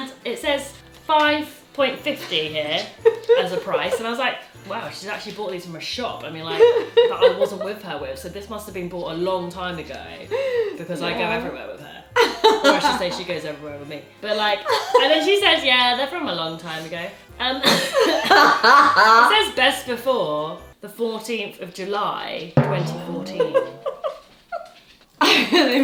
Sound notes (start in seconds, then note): 17.6 laughs; 22.6 timpani thuds